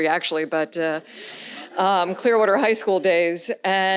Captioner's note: audience laughs